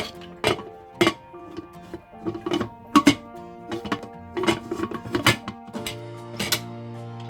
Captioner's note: with high pressure sound/shaking